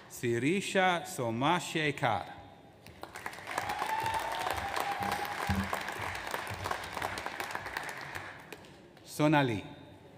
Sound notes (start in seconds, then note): 3.0 audience applauds